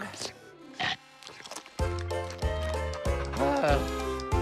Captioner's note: chomp!